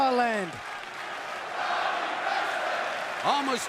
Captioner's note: crowd cheering